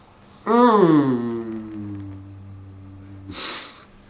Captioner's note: groans